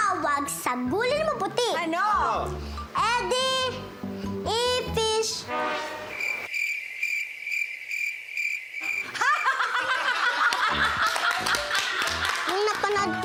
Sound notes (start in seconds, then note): 5.4 horn sfx playing; 5.8 crickets sfx playing; 9.0 laughing, applause